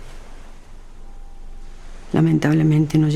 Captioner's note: waves crashing